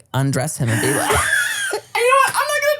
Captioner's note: everybody laughs